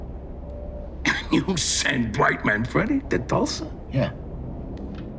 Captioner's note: laughing